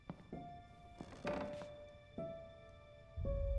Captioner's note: footsteps; floor creaks